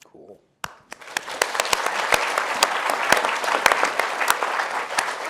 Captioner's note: audience applauds